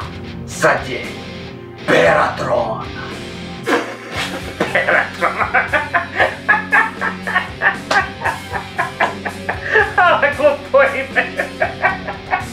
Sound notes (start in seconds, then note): 7.0 laughing out loud; 10.9 dying of laughter